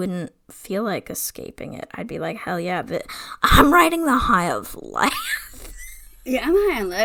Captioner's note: wheeze laughs